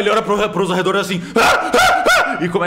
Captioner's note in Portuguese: muitos gritos